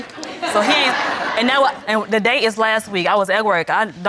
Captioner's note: audience laughs